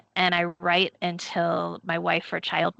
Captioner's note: none